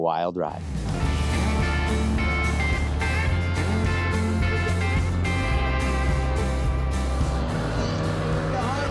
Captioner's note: crowd chattering